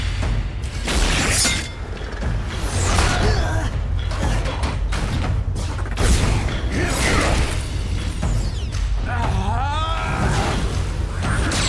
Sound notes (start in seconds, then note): 3.1 bumblebee grunting; 6.6 optimus grunting; 9.2 yelling